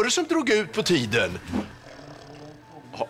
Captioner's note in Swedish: Ulf snarkar